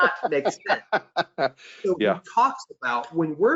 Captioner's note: laughs